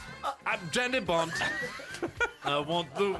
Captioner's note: wheeze